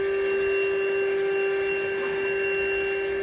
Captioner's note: vacuuming